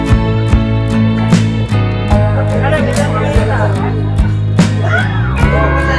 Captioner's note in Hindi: जोर से हँसने वाला